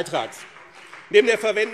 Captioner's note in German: Beifall BÜNDNIS 90/DIE GRÜNEN und CDU